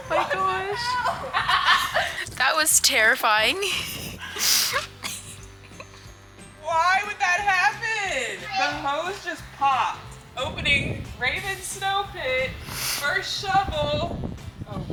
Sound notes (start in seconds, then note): 0.0 laughs; 3.6 chuckles; 3.6 sniffles and chuckles